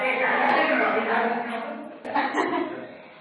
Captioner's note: voices in the background